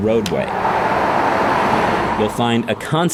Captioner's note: car driving